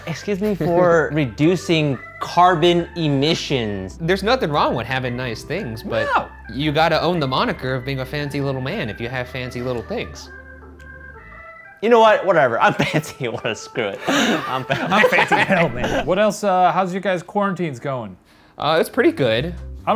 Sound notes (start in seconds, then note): 14.0 all laughing